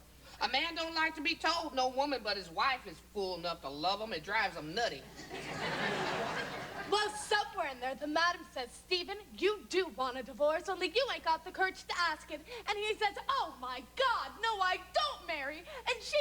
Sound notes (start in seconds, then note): 5.1 laughter